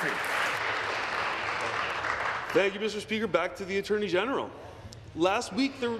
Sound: applause

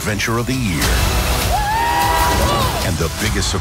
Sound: screaming

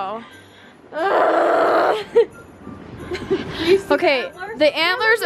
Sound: groans angrily

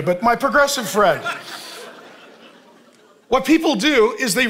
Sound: congregation laughing

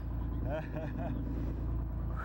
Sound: laughter

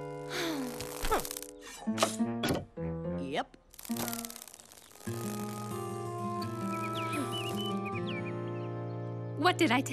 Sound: sighing

